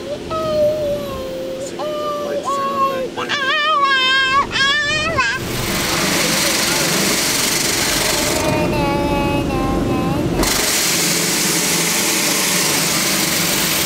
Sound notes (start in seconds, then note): 6.0 car wash buzzing; 8.0 vocalizing